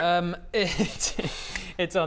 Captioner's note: unhelpful giggles